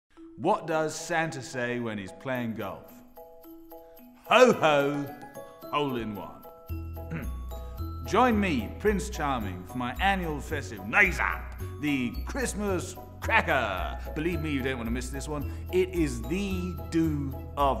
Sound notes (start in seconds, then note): 7.0 cough